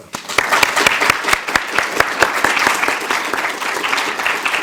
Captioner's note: audience applauding